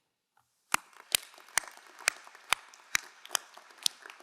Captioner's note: crowd applauding